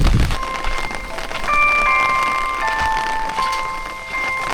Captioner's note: even the hourly alarm sound is eerie